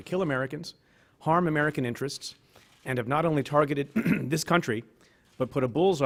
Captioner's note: clears throat